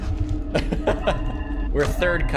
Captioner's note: laughs